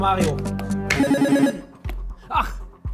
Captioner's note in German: Buzzer